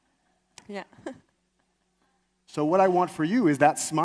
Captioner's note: chuckles